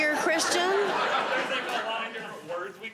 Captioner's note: audience laughs